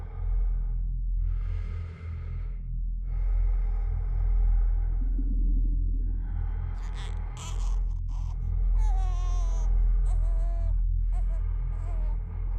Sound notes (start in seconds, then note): 1.5 breath huffing; 1.5 ominous music; 8.8 baby cooing